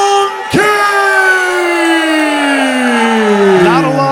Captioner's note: crowd booing